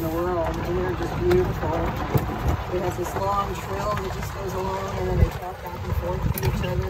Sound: lady continues talking

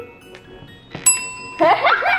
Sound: bell dings; family laughing

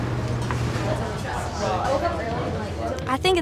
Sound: breakfast hall chatter

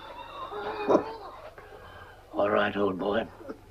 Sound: barking

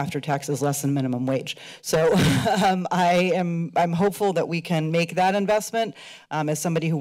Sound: laughter

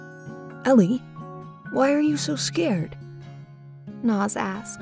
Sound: voiceover

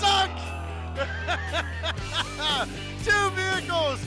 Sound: laughter

